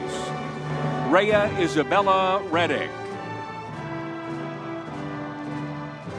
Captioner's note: crowd cheering